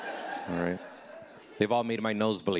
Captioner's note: audience laughing